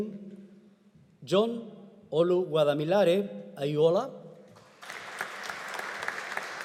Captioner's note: audience applauding